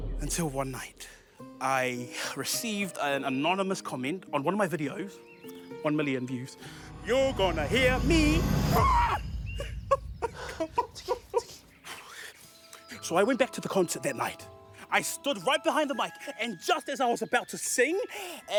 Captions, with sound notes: Until one night, I received an anonymous comment on one of my videos. 1 million views. 'You're gonna hear me—' (ROARS) (SOBS) So, I went back to the concert that night. I stood right behind the mic and just as I was about to sing...